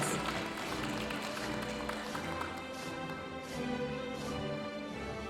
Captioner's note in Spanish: aplausos de la audiencia